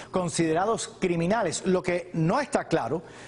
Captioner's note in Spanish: hablan inglés